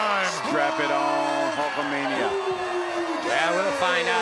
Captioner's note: crowd cheering